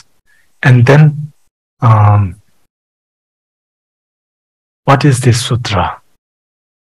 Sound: tibetan language

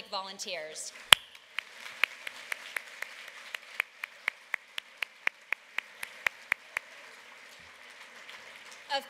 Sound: applause

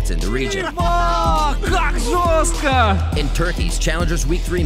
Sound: speaking foreign language

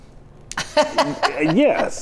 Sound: laughs

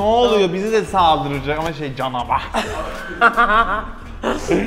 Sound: laughter

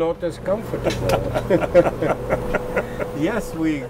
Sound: all laughing

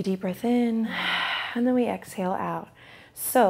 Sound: exhales

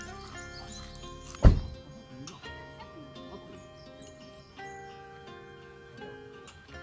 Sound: laughs

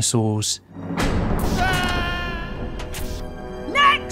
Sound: scared yell

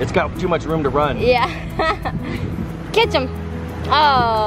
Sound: laughs

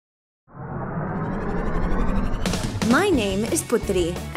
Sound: engine whirring

